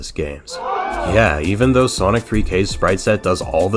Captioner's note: crowd gasps